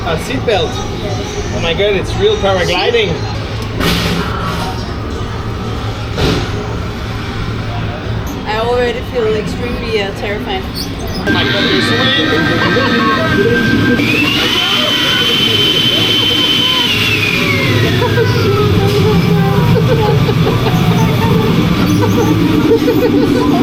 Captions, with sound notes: Ah, a seatbelt! Omg, it is real paragliding! I already feel extremely terrified Omg, there is wind! Ahhhh hahaha (screaming) Oh shit, hahaha I cannot, I cannot!